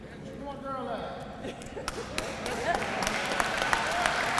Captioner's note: applause